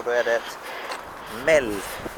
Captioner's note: omg how loud can my breathing be?/